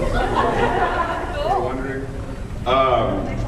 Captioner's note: laughs